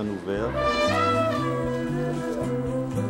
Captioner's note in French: barrissement